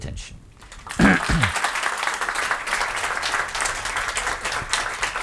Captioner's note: audience clapping